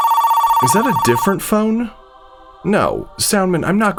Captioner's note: a different ringing